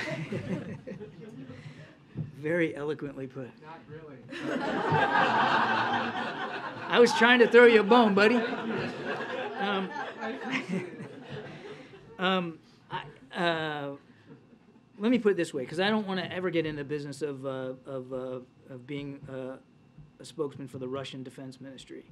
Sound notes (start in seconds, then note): 0.0 laughter; 5.5 laughter; 7.7 laughs